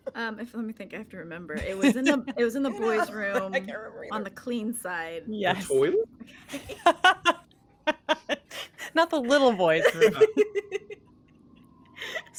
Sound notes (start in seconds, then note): 7.8 laughing; 9.2 cast members laughing